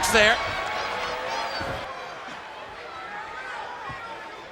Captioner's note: crowd shouting